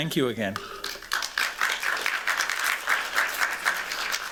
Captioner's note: applause